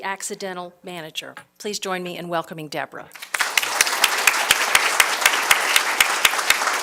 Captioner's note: applause